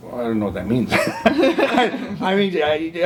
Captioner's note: chuckles